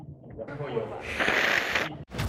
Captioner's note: sniffing again